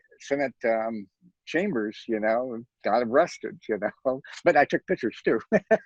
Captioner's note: laughs